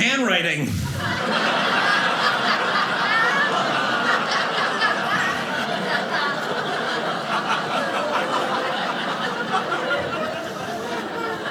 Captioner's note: audience laughing